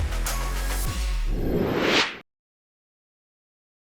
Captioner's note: whoosh